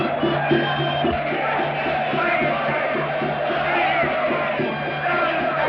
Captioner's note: cheering